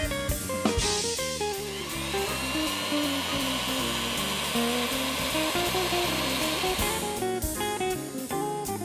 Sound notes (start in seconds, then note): 1.4 mixer whirring